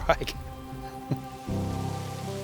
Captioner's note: water rushes